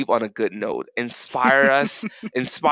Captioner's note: chuckles